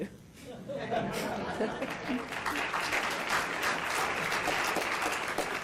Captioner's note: laughing and applauding